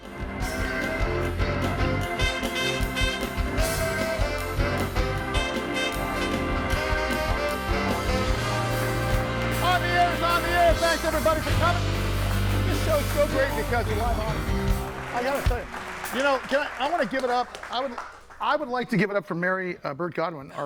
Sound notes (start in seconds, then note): 0.6 lively music; 7.0 audience applauding; 11.4 lively music continues; 15.3 audience applauding continues